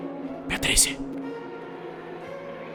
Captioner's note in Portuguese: sussurra